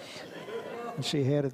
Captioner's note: audience laughs